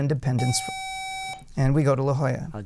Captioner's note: buzzer